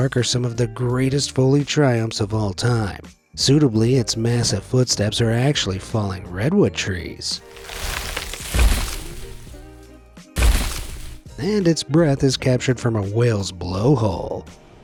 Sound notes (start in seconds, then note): 7.4 tree crackles; 7.4 tree thuds; 10.4 footsteps thuds